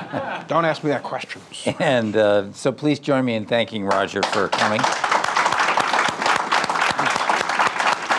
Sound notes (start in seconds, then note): 3.9 people applaud